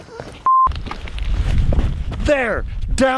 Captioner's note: laughs; camera beeps